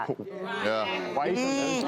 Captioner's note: audience yells in agreement